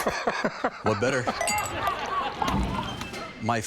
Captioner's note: men laughing; glasses clink